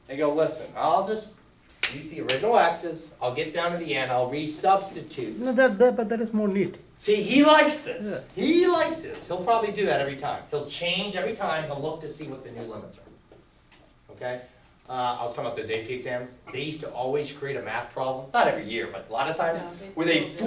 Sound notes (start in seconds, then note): 5.8 voiceover